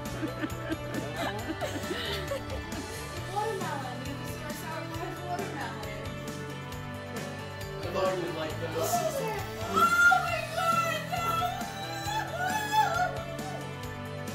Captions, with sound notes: - Watermelon. He sent our Sour Patch Watermelon. - I thought you'd like those. - (gasp) Oh my God. No! (crying)